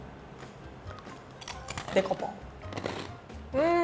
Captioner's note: chewing; speaking in foreign language